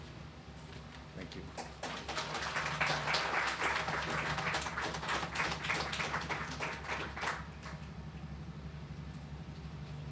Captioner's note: clapping